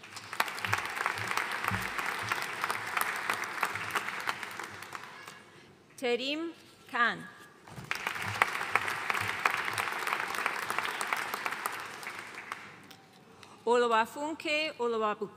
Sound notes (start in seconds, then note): 0.0 audience applauding; 7.8 audience applauding